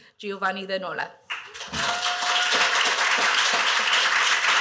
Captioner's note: cheers, applause